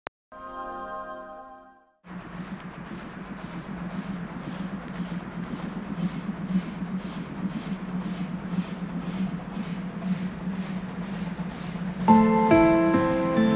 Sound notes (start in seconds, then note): 5.6 train rattling